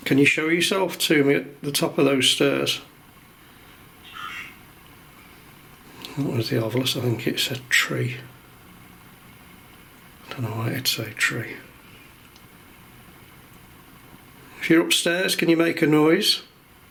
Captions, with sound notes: Can you show yourself to me at the top of those stairs? (device speaking) I don't know what the other was, but I think it said "tree." I dunno why it'd say tree. If you're upstairs, can you make a noise?